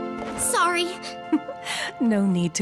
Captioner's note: giggle